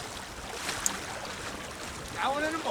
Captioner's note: water splashing